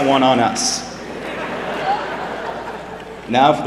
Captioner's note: laughter